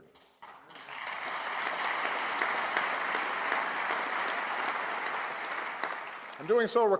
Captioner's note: applause